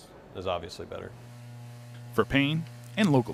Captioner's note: machinery humming